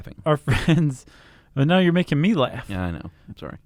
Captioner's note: chuckling